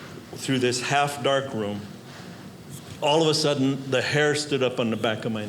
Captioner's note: none